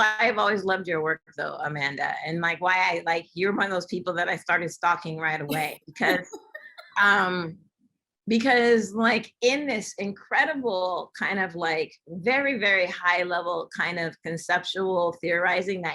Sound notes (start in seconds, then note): 6.0 laughter